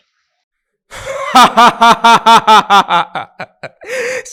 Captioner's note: laughing